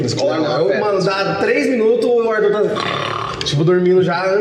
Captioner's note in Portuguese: Roncando